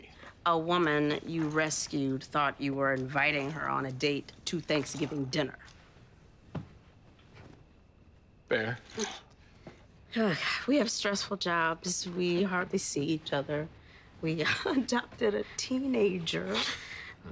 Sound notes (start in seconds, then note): 8.5 sighs; 14.4 chuckles